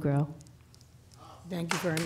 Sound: applause

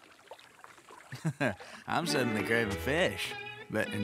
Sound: chuckles

